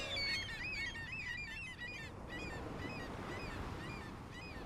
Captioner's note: seagull noises